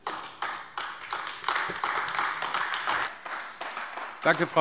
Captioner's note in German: Beifall AfD